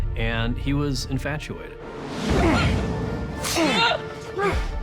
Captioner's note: grunting